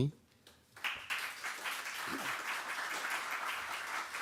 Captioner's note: applause